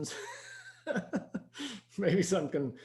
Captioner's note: laughing